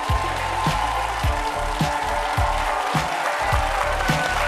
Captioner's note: audience applauding; upbeat music